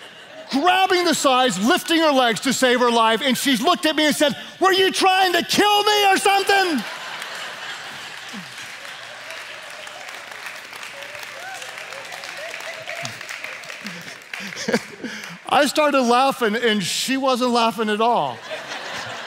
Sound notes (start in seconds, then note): 6.7 laughter; 7.8 clapping; 18.4 laughing